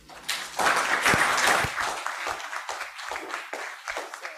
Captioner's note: audience applauds